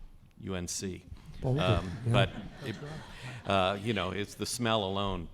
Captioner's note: crowd laughing